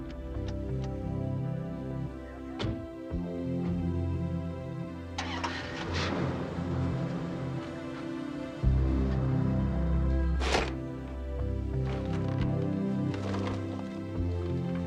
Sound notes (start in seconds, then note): 0.2 doors click and thud; 5.2 engine starting; 10.5 items clattering